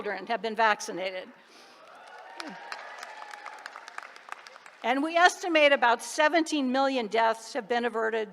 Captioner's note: applause